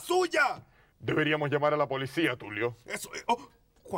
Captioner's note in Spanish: Con voz normal